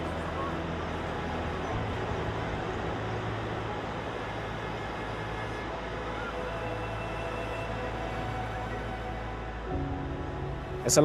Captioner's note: street and people ambience; distant sea ambience